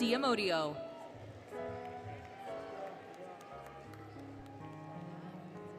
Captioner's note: applause, Cheering, Music